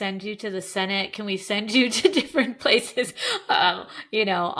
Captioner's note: chuckling